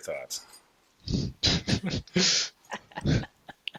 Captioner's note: laughter